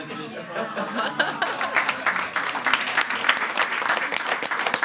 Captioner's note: all applauding